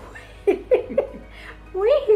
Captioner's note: chuckles